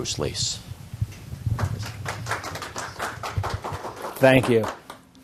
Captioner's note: applause